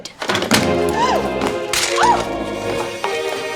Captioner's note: clattering; dramatic music